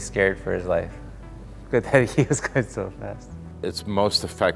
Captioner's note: laughter